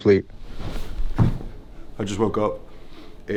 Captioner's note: feet thuds